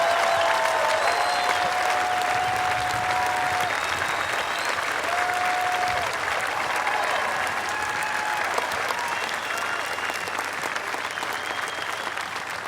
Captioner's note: applause